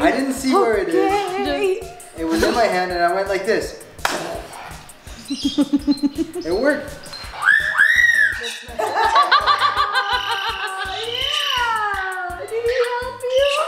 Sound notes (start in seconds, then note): 2.3 blows; 4.0 claps; 5.2 laughs; 7.0 Leo whistles; 8.6 laughter